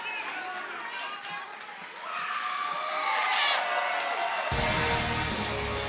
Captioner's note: crowd cheering